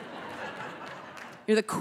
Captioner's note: audience laughing